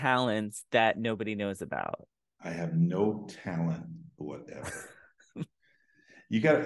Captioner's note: laughs